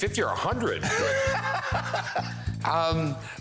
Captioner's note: laughs